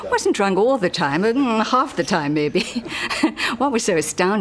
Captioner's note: laughs